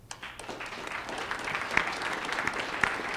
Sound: applause

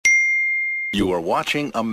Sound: ding

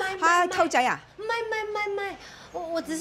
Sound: in Cantonese; in Mandarin

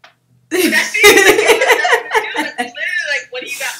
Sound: laughs

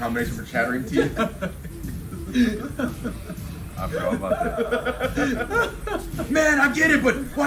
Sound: laugh

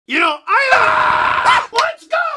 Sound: screams very loudly

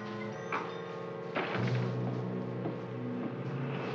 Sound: ominous music; door closes; aircraft roars overhead

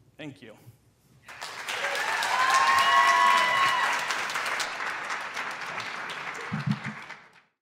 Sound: audience applauds and hoots

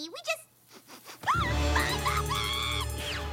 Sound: sniffing

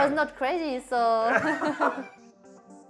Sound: both laugh

